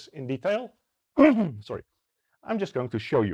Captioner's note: coughs